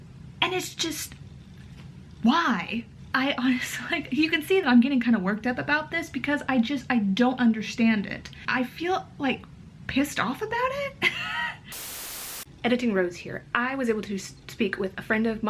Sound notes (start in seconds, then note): 11.7 static noise